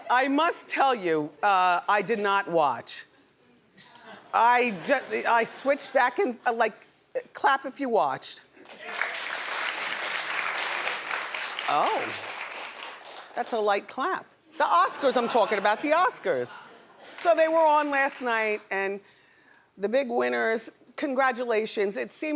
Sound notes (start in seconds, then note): 8.6 audience members applaud